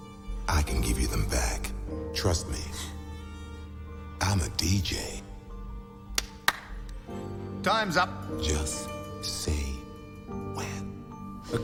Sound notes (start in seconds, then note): 6.1 Harry claps